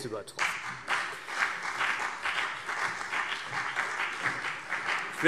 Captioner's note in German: Beifall CDU und BÜNDNIS 90/DIE GRÜNEN